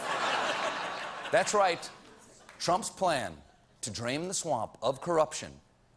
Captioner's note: laughter